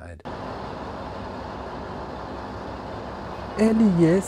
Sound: train roaring

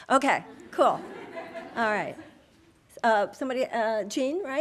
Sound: audience laughing

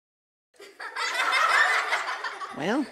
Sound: laughing

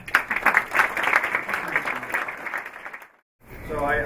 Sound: applause

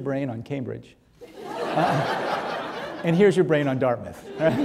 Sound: audience laughing

